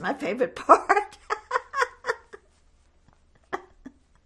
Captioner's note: laughing